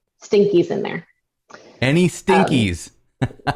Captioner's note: laughter